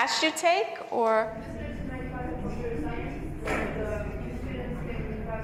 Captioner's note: student speaking quietly